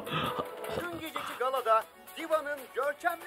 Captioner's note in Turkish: Televizyon sesi